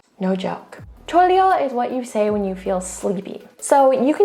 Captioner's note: speaks in Korean; speaking in Korean